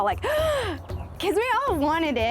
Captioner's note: gasps